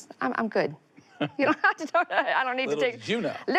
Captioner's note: laughs